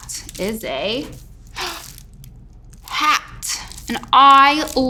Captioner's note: gasps